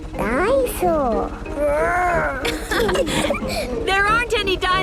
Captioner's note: laughing